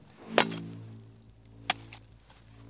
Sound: ice chipping away

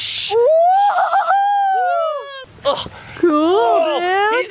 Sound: cheers

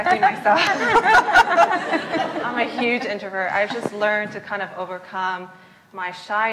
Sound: laugh; laughs

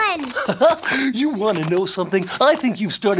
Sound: chuckles

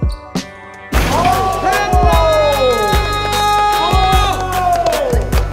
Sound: crowd cheering

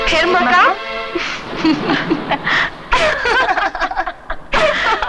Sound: laughs

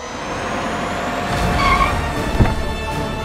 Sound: car halts

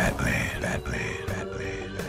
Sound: echoing

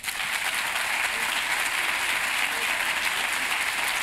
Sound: applause

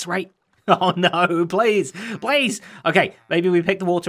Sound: laughing

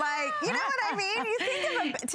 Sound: laughter

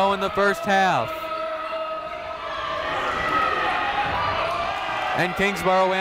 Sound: people shouting in the crowd

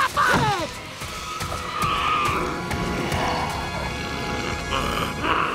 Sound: screeching

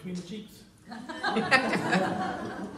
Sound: laughter

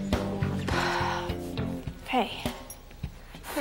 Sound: Caitlin sighs

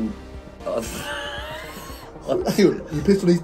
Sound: laughing

